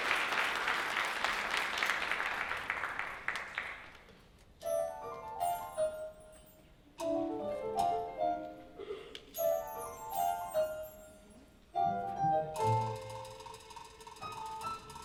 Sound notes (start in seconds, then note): 4.5 Tinker Bell chimes